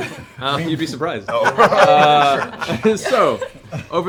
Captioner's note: laughter